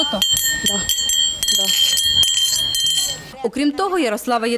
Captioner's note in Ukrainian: чути дзвін медалей